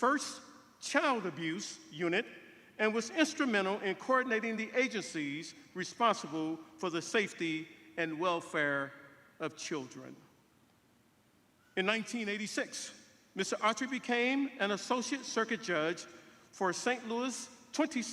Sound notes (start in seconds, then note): none